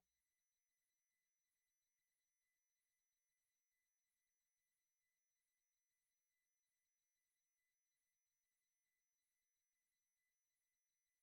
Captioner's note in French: voix de l'interprète